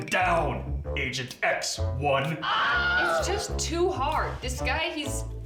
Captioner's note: man screams